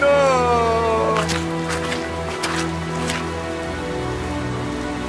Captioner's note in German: Schritte, die im Schlamm zermatschen; traurige Musik